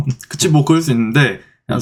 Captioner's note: haha